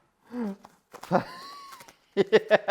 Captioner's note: laughter